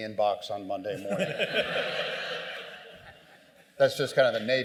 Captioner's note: laughter